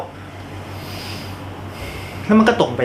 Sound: deep breath

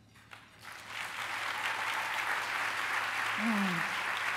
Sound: applause

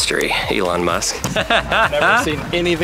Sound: laughing

